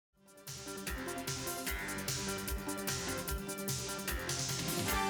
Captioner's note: crowd cheering